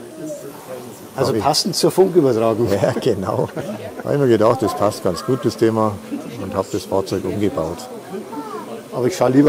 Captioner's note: laughs